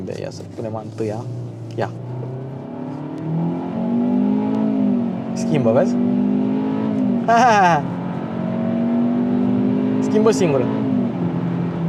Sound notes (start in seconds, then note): 7.3 short laugh